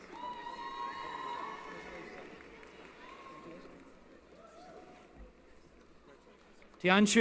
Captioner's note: cheering